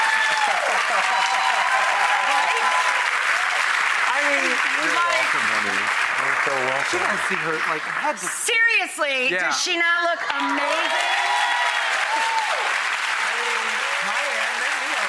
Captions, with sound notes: Right! Seriously does she not look amazing? (audience cheers)